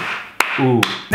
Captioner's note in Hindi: तालियाँ मारते हैं